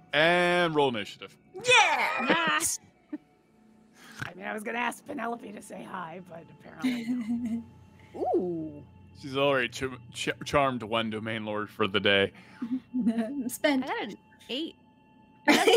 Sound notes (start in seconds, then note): 6.8 laughs; 15.5 laughs